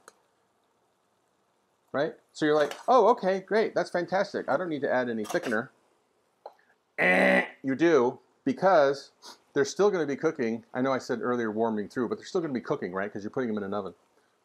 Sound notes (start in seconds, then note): 5.6 buzzer sound